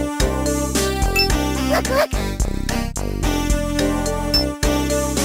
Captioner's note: excited Arale noises